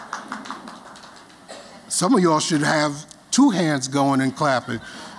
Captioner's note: �applause�